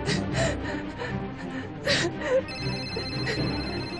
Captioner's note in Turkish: Defne ağlar; Telefon çalıyor